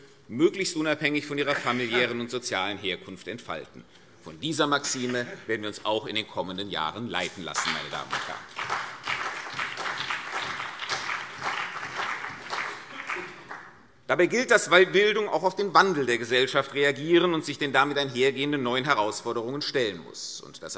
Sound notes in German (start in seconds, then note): 7.4 Beifall CDU und BÜNDNIS 90/DIE GRÜNEN